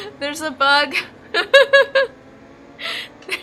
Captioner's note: laughs